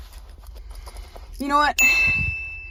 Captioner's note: ding Sound; gasps